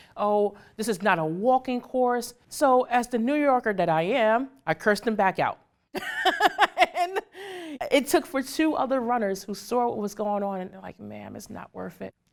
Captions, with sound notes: "Oh, this is not a walking course." So, as the New Yorker that I am, I cursed him back out. (laughs) It took for two other runners who saw what was going on and they're like, "Ma'am, it's not worth it.